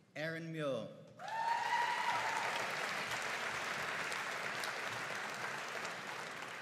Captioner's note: audience cheering and applauding